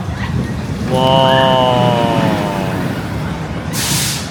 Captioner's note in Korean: 와아